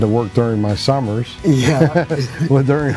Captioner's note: both laugh